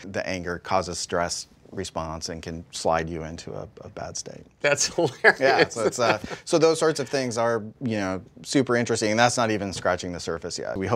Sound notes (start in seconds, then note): 5.1 laugh